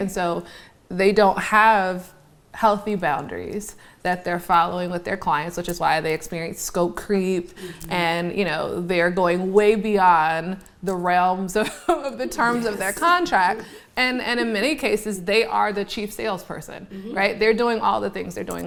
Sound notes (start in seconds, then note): 10.9 laughs